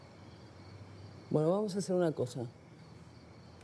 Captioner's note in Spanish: Turca